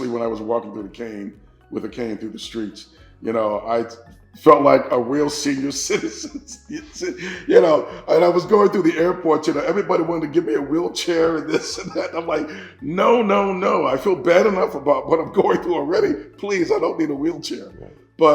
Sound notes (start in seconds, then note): 5.6 chuckles; 7.8 meditative music continues